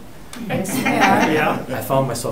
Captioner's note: group laughing